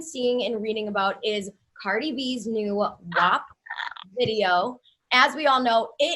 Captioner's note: exclaims